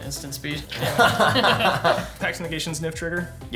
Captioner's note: players laughing